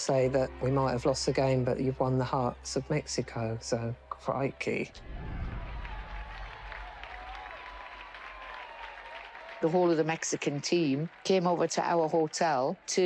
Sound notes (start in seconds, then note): 5.0 crowd cheers